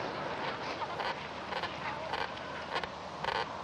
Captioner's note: creaking